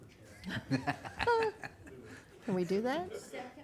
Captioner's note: laughter